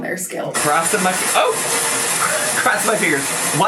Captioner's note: rain spattering